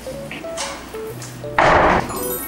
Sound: thump~

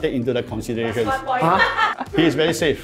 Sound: laughs

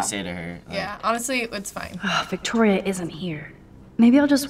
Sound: sighs

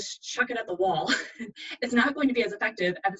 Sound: laughs

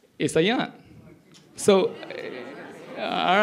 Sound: audience chatter

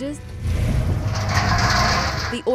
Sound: cage rumbling

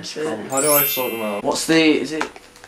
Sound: chimes

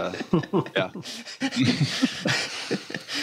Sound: laughs

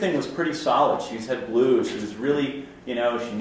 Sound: slurs words

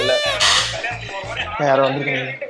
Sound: doorbell rings

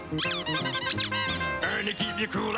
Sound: squeaking

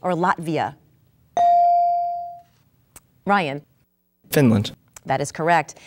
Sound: dinging

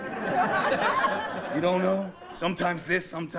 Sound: laughter

